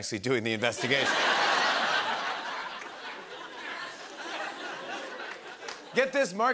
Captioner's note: laughter